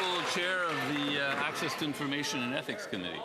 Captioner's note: some Applause